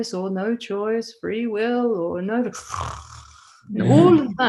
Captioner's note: snore